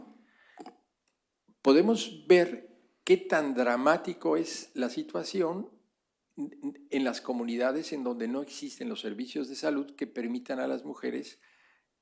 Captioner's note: speaking spanish